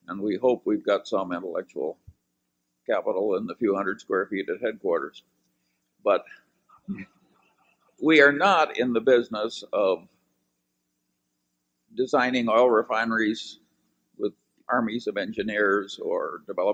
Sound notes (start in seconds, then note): 5.7 laughter